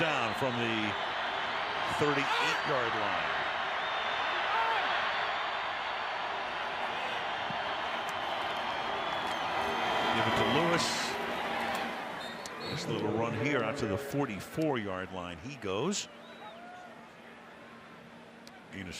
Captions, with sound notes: First down from the 38-yard line. [crowd cheering] Give it to Lewis. Just a little run here out to the 44-yard line, he goes.